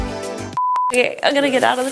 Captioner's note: upbeat music; beep